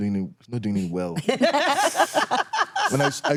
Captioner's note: laugh